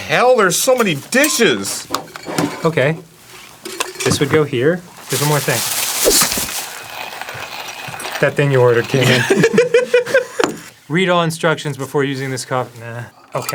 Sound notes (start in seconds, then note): 4.9 plastic loudly crumpling; 9.0 laughing